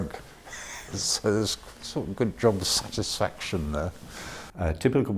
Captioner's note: laughs